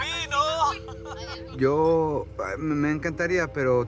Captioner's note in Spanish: Risas